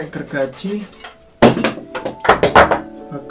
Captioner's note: pipe falls